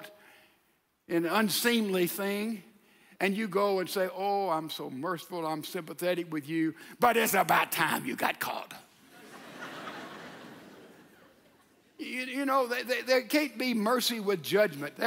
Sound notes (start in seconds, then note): 9.0 audience laughs